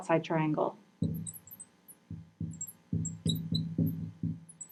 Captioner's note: marker scratching